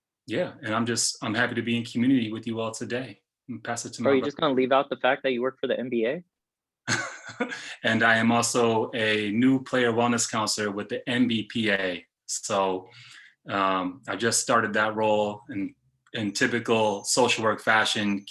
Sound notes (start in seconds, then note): 6.8 laughs